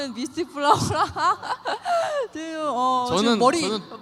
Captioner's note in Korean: 웃음